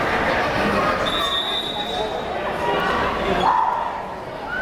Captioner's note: whistle blares